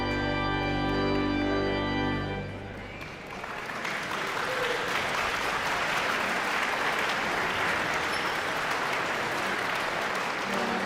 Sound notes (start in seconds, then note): 3.0 audience clapping; 4.7 audience cheering